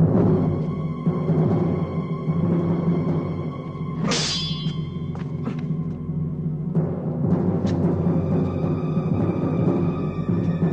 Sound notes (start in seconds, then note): 1.8 slow, tense orchestral music; 4.0 clinking